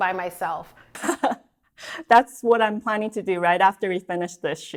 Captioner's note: chuckles